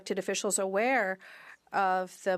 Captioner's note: speaking French